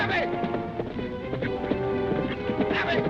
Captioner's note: horse hooves clopping